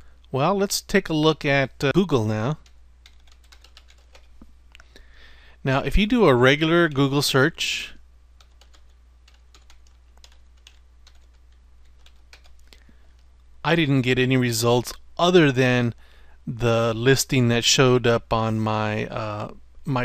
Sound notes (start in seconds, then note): 8.4 typing